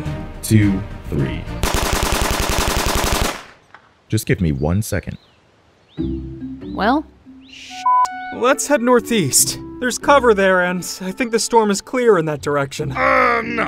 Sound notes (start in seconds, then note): 0.0 suspenseful music; 1.6 guns firing; 6.4 light music; 7.8 beeping